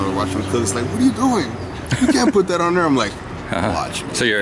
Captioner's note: imitating someone else talking